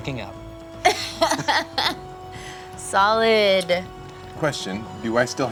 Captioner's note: laughs